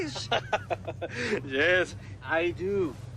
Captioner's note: laughter